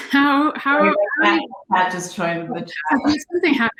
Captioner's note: both conversing